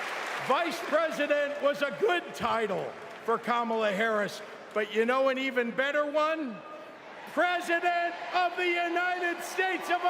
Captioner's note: applause